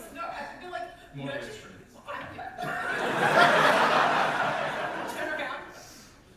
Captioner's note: audience laughter